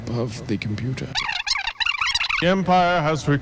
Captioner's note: disk scratches